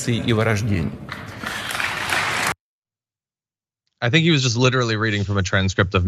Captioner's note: applause